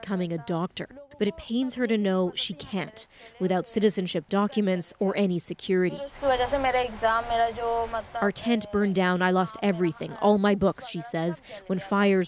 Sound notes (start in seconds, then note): 10.4 speaking alternate language